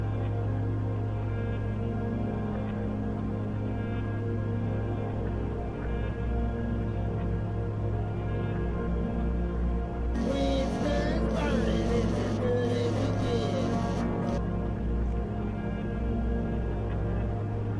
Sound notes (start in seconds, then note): 10.4 phone rings; 14.9 intense music